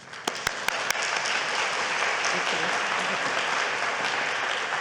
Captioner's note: audience applauding